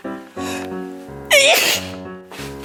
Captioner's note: sneezing